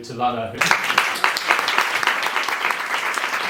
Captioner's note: applause